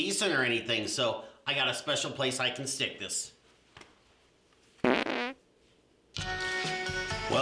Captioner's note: farting sound; jaunty music